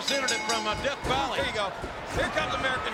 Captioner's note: bell rings